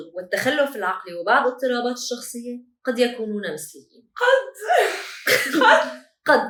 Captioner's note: laughter